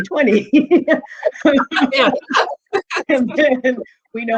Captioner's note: laughing